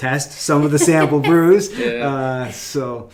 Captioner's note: laughing